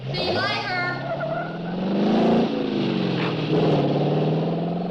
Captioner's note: engine revving